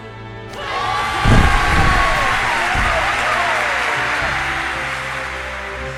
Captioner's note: crowd cheers